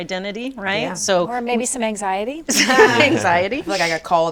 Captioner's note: all laughing